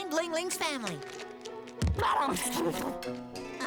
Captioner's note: thud!